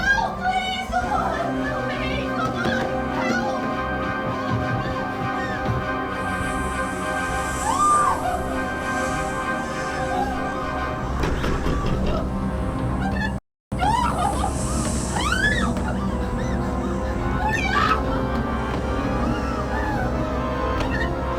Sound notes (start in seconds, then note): 3.6 dramatic music; 7.5 screaming; 8.7 snake hissing; 11.0 door banging; 18.5 dramatic music